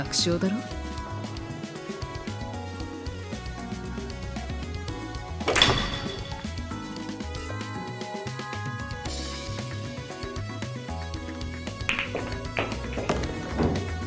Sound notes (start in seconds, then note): 5.5 crack*!!; 11.8 crack*! *thunk*—!